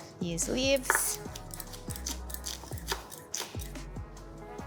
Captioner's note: knife whooshing